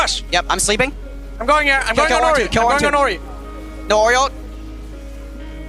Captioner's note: teammates communicating